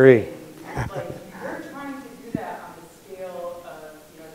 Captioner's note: laughs